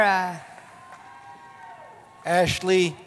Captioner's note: cheering